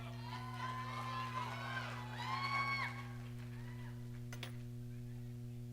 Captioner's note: audience cheering